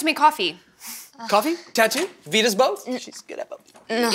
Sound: under his breath

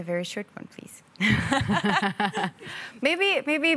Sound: all laugh

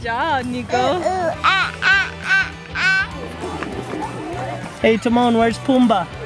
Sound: imitating a monkey

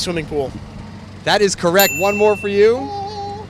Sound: bell dinging

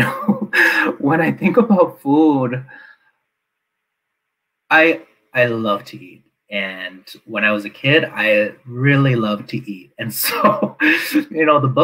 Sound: laughs

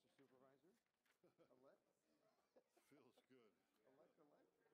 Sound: people talking

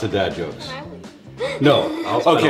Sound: laughing

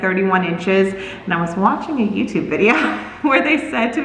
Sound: laughs

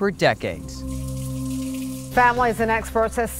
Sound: water flowing

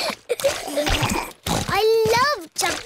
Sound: giggling

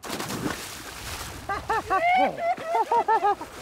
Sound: laughing

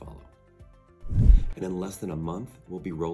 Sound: swoosh

